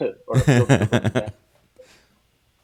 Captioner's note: laughs